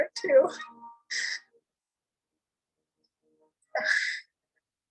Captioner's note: sniffles